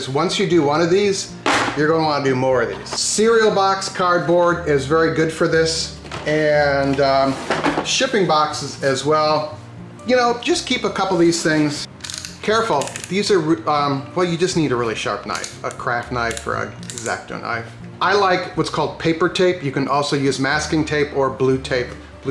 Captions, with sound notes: Because once you do one of these, you're gonna wanna do more of these, Cereal box cardboard is very good for this, and shipping boxes as well, you know, just keep a couple of these things. (knife clicks) Careful, well you just need a really sharp knife. A craft knife or an X-ACTO knife. I like what's called paper tape, you can also use masking tape or blue tape.